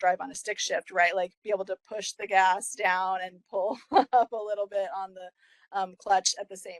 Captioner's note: laugh